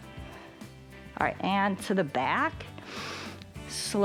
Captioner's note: inhales